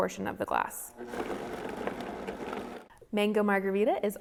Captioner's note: blender buzzes